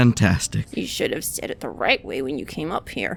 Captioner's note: hesitantly